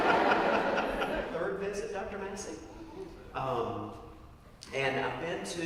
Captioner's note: laugh